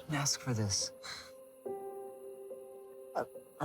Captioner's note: Molly sighs